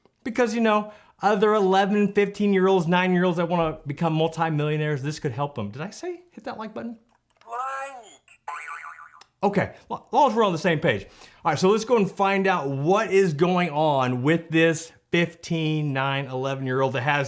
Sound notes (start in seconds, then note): 8.2 comical sproinging